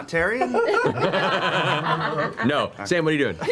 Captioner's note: all laugh